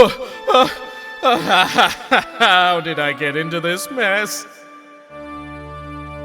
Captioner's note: frustrated groan; winded gasping